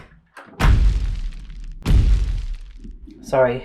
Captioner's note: thumping